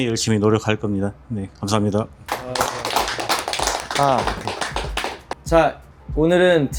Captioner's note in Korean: 박수